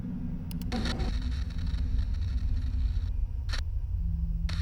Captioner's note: static crackling